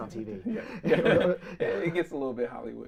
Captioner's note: both laughing